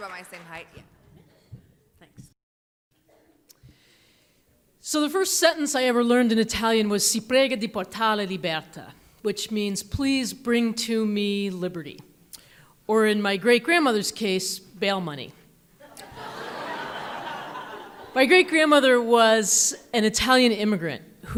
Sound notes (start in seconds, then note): 7.2 speaking in foreign language; 15.8 audience laughs